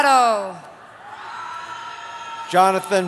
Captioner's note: cheering